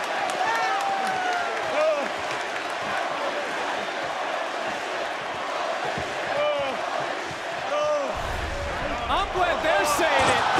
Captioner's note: crowd chants